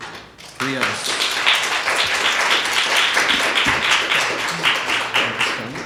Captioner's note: audience applauds